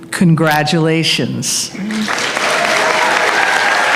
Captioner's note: applause